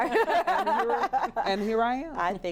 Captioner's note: laughter